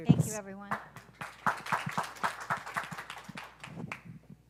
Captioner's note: applause